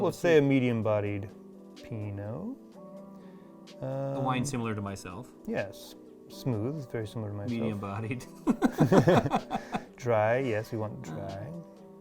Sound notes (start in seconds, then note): 8.3 laughing